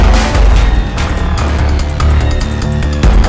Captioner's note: Tinkling